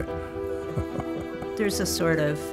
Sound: chuckles

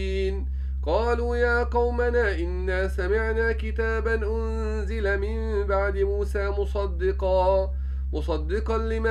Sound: recited

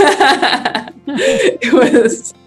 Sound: both continue laughing

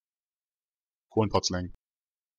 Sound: fast Pronunciation

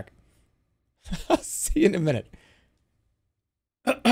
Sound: laughing

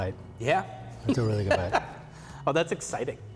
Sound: laughing

